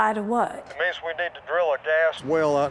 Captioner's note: on phone